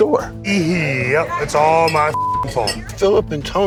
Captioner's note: beep